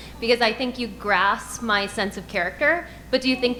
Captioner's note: none